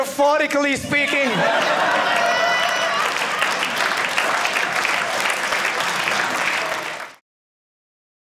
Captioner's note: audience laughing